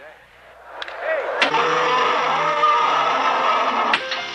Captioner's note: roar; click; click